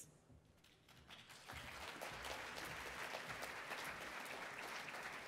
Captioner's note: attendees applauding